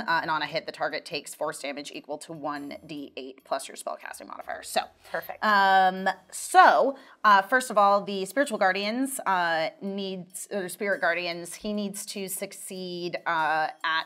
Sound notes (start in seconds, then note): none